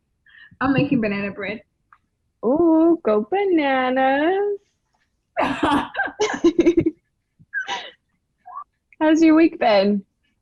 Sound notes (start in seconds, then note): 5.4 laughing; 5.4 giggling